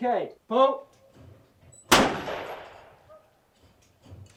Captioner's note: gun shooting